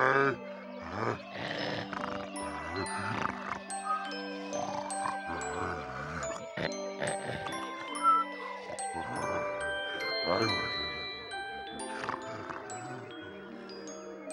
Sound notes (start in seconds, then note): 0.8 volcano snoring; 4.9 lullaby music